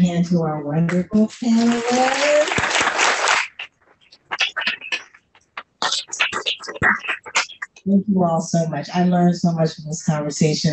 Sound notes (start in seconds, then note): 1.3 applause